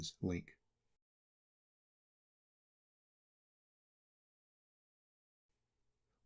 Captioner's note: silence